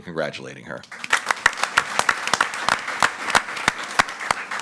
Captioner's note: all applauding